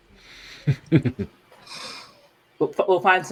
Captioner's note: laughs